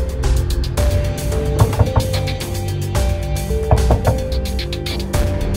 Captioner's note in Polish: ktoś puka w wieko